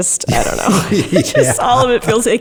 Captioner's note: laughs